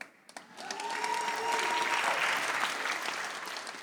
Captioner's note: audience applauds